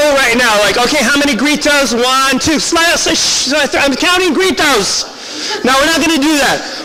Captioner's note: shushing crowd